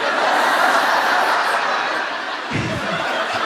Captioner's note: laughter